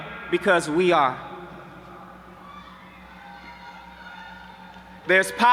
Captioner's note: audience cheering